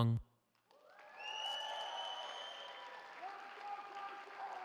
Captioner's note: cheering